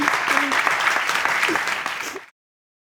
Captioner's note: applause